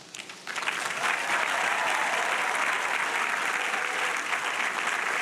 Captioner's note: audience applauding and cheering